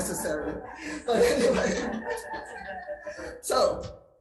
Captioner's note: all laugh